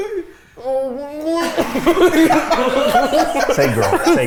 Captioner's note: makes silly sounds and laughs